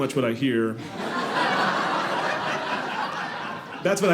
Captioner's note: audience laughing